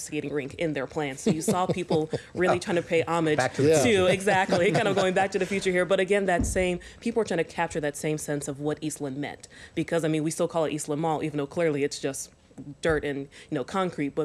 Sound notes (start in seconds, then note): 7.0 laughter